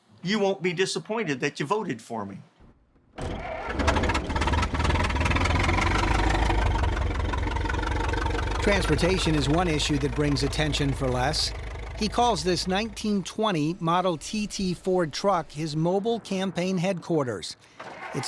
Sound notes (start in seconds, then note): 3.9 engine turns over; 5.6 engine putters